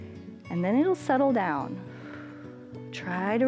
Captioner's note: exhales